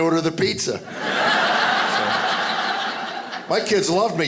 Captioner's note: audience laughing